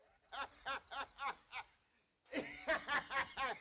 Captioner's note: raucous laughter